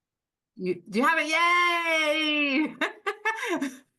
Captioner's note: laughs